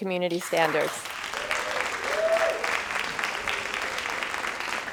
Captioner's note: crowd applauding